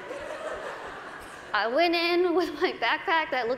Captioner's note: laughter